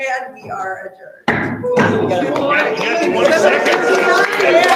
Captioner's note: group cheering